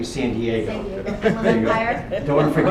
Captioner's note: laughter